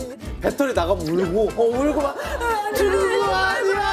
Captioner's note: screaming when the battery's out